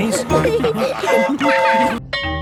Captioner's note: train whistle toots